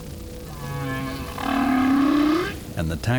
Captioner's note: whale calling